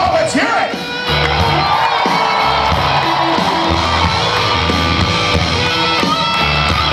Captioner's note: audience cheers